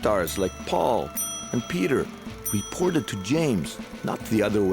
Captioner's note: dinging